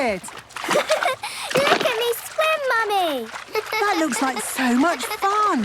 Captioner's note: giggles